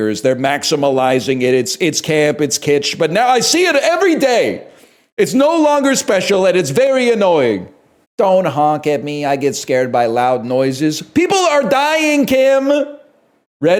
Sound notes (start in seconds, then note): 3.0 shouts; 8.2 mockingly